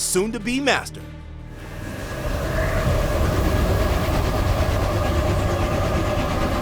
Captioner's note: whooshing